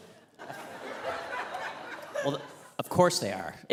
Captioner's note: audience laughing